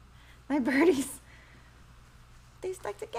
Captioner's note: laughs